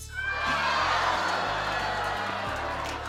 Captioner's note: cheering